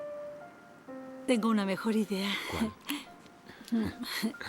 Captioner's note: laughs